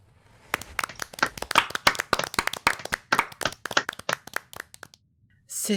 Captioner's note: applause